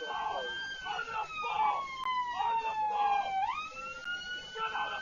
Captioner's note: police car siren; muffled shouting